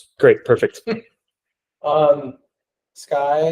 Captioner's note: laughing